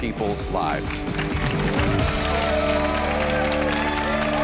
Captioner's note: audience clapping; audience cheering